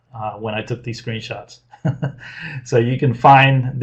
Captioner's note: laughs